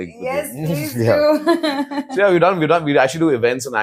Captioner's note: laughs